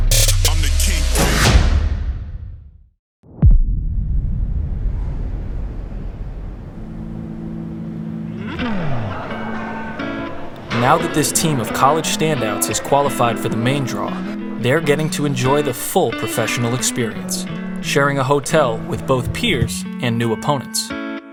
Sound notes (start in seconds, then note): 3.3 audio hit; 6.4 light acoustic music